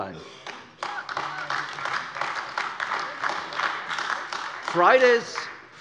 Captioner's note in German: Beifall AfD